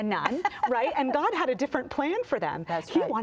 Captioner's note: laughs